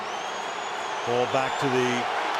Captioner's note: crowd cheering